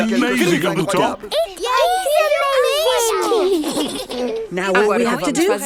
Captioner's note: George giggles